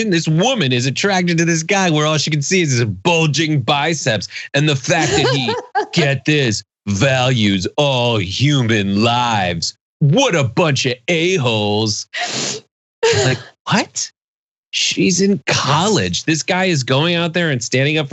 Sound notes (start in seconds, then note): 4.6 laugh